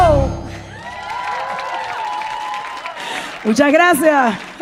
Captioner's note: audience cheering and applauding